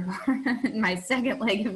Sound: laughing

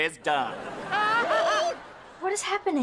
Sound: laughing

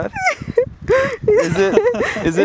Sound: laughing

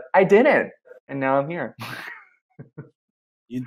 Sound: laughs

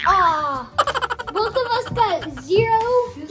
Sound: chipmunk laugh

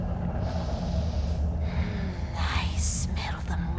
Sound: hydra breathing

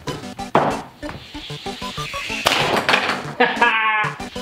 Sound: object clunks

